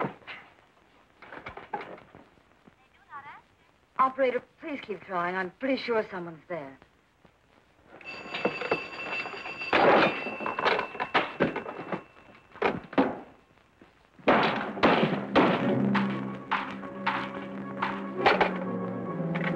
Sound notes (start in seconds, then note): 2.0 on phone; 8.0 phone ringing